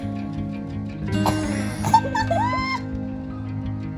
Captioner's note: laughter